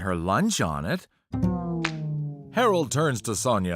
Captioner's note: slap